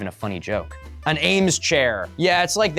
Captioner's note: terribly wrong pronunciaiton